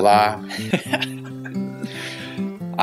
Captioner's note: laughs